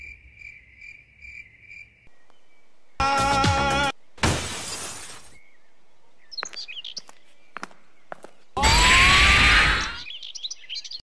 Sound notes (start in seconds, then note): 4.2 crash